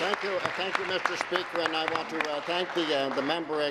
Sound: applause

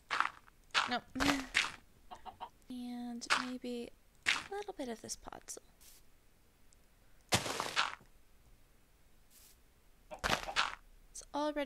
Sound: giggles

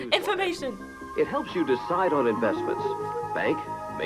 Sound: voice-over

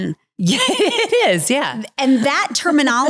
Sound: laughs

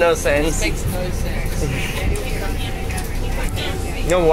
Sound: general Chatting

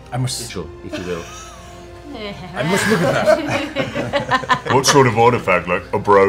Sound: laughter

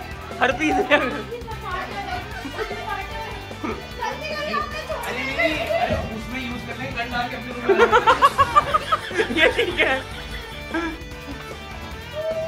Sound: laughter

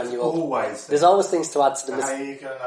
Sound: laughs

